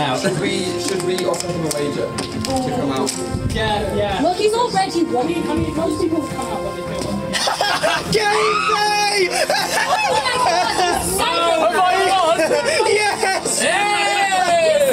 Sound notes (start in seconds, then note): 2.3 door opens; 7.4 shouting and laughing; 9.6 everyone shouting